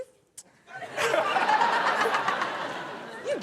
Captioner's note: Chanel and audience laughing